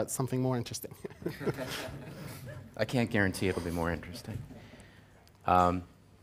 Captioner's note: laugh